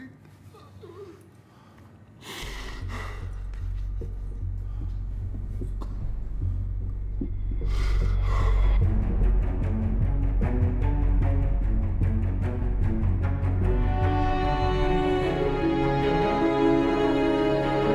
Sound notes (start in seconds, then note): 0.4 breathes heavily; 10.2 dramatic music